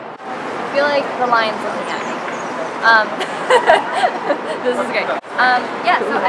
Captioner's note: laughing